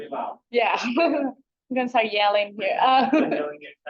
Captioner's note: chuckles